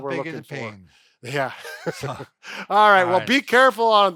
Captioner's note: chuckles